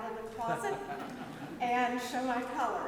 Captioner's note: audience laughs